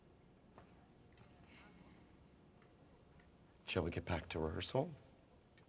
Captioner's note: none